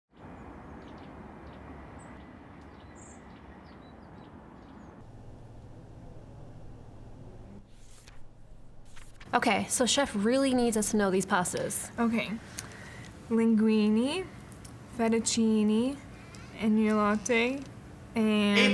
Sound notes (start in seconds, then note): 0.1 wind rustling trees, birds chirping; 8.8 pages rustling; 18.6 with Scottish accent